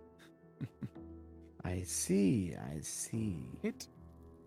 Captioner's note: chuckles